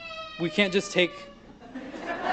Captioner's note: baby Screeches